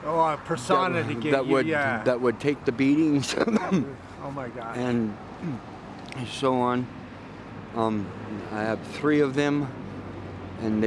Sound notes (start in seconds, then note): 3.2 coughs; 6.7 swallows